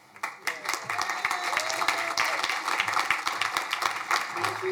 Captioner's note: crowd applauding